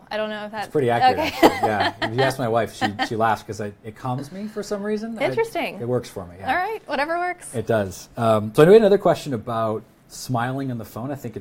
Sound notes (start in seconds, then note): 1.0 laughs